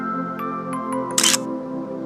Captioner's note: photo click